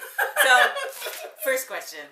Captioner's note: laughing